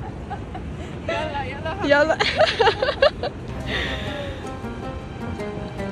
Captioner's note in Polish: śmiech